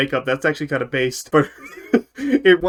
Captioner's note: laughs